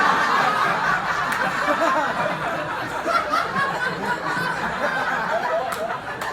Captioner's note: laughter